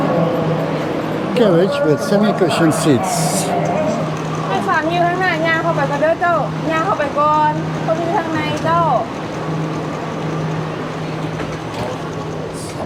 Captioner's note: foreign language